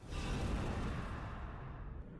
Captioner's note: whoosh